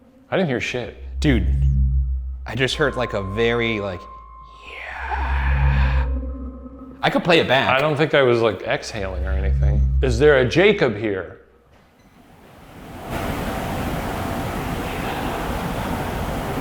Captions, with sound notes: I didn't hear shit. - Dude. I just heard like a very like, "Yeah." I could play it back. - I don't think I was like exhaling or anything. Is there a Jacob here? (soft whispering)